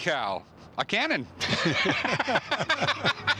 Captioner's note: laughter